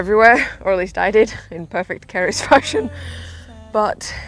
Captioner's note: laughs